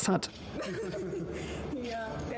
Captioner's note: Harry and Meghan giggle